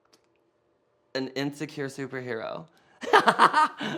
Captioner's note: laughs